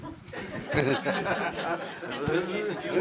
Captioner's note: laughter